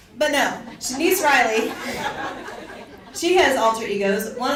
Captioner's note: audience laughs